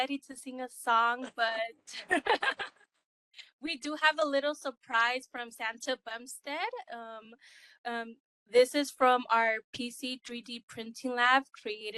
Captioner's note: laughing